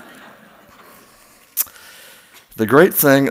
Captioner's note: laughs